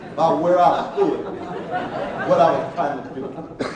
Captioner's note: laughing